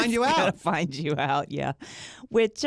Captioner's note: laughs